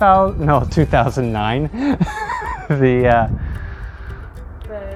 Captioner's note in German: lacht